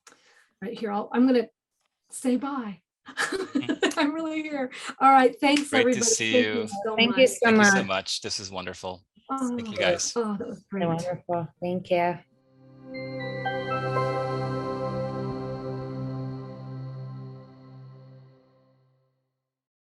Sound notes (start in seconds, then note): 3.1 laughing; 12.6 gentle music